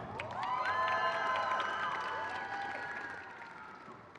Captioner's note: crowd cheers